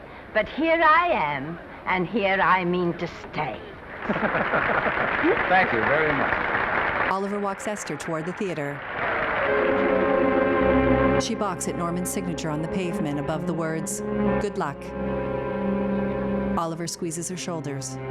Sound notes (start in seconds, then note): 4.0 men laughing; 7.1 applause; 10.1 dramatic music